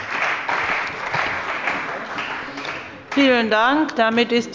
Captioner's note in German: Beifall bei der CDU und dem BÜNDNIS 90/DIE GRÜNEN